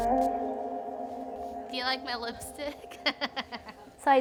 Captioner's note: laughs